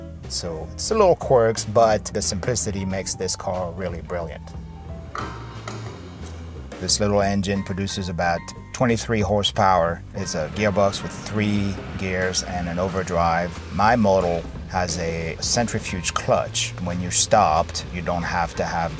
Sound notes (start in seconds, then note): 5.1 jazzy upbeat music; 5.6 gas cap clicking